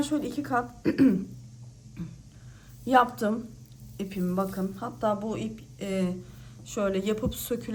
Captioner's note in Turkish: boğazını temizler